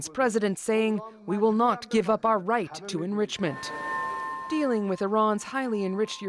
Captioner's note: speaking Alternate Language